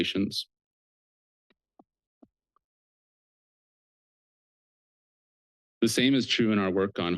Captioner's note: pause